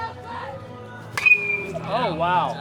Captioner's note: bat hits ball